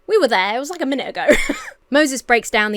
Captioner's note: Emma laughs